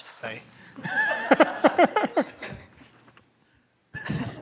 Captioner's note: laughter